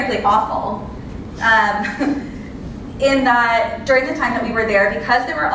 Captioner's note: laugh